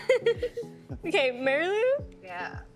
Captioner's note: laughing